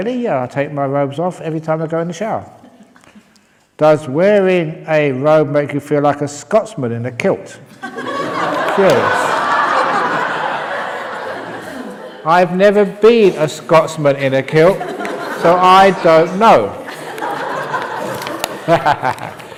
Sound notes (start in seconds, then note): 9.7 laughter; 19.3 laughter